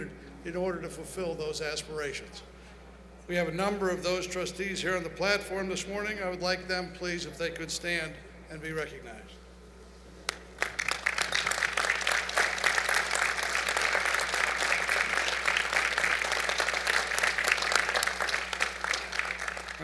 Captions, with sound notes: in order to fulfill those aspirations. We have a number of those trustees here in the platform this morning. I would like them, please if they could stand and be recognized. [ Applause ]